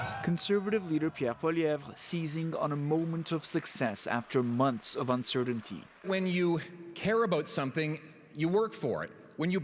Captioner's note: cheers and Applause